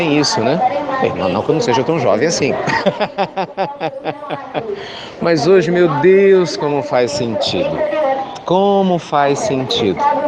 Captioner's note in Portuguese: Risos